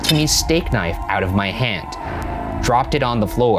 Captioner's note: knife clatters